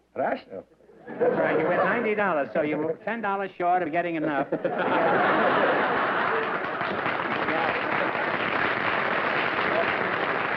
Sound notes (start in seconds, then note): 4.2 laughter; 7.6 applause